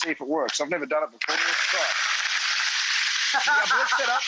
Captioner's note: blender whirring; Rachael laughs